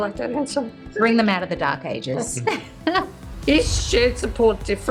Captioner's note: laughs